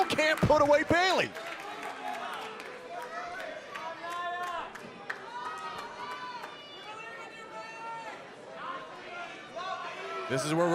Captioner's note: crowd cheering